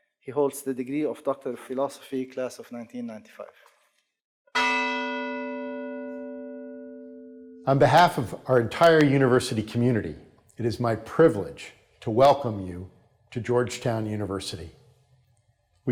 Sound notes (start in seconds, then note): 4.5 bell chimes